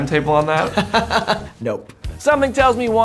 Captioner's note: laughs